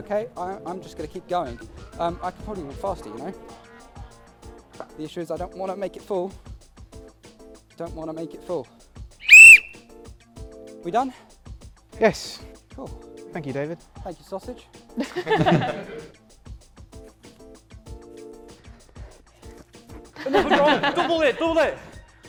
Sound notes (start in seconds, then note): 9.2 blows whistle; 15.0 laughter